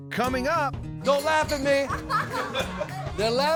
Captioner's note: laughing